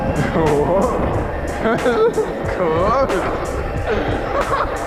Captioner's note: laughing